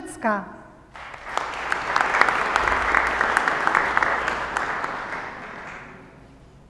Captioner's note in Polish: oklaski